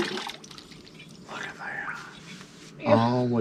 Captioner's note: whispers